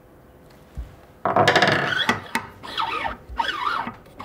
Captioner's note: put down, scraping sounds